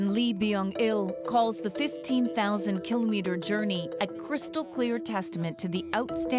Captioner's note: speaking alternate language